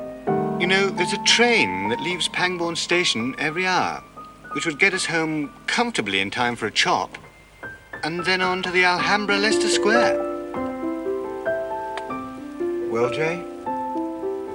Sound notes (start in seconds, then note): none